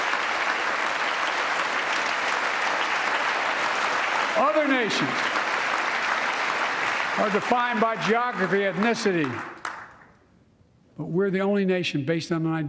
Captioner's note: applause